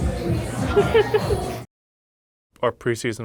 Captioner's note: laughs